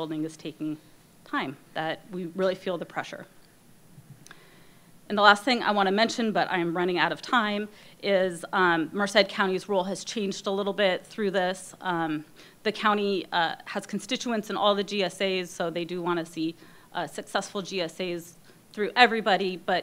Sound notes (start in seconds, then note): none